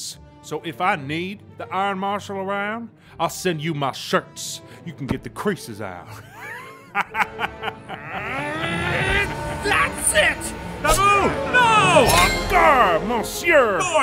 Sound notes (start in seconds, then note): 6.1 laughs; 7.9 groans